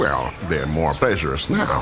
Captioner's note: idyllic birdsong